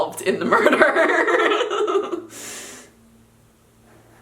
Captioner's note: laughing